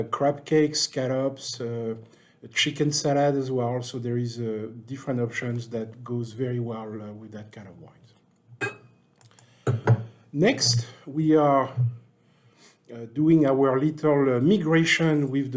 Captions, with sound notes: crab cakes, scallops, chicken salad as well. So, there is different options that goes very well with that kind of wine. (glass clinks) Next, we are doing our little migration with the Monarch